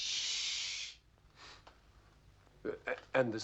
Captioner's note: sniffs